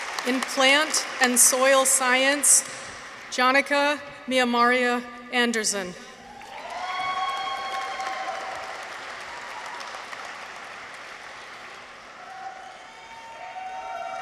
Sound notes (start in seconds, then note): 0.0 audience applauds; 6.2 people cheer; 6.3 audience applauds